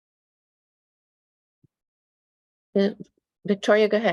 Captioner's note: silence